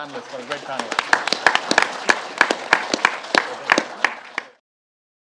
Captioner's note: audience applauds